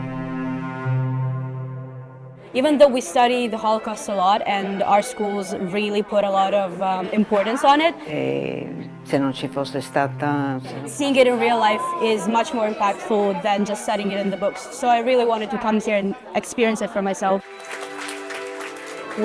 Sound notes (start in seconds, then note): 8.1 speaking in foreign language; 17.4 audience applauds